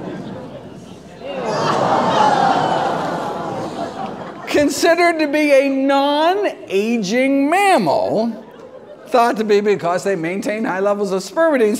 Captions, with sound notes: (audience groans) Considered to be a non aging mammal thought to be because they maintain high levels of spermidine.